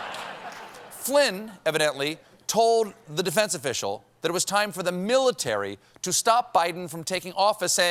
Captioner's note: laughter